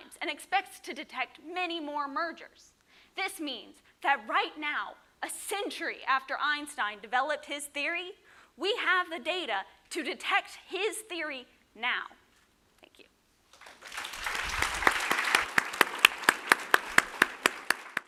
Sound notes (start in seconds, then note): 13.5 applause